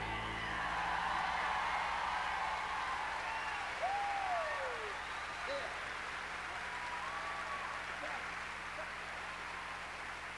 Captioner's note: crowd cheering